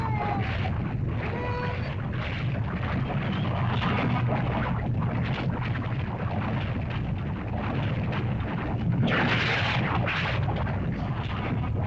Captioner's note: Wandi cries; lava bubbles & flows